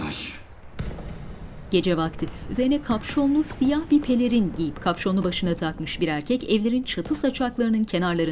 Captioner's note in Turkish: Koşma sesi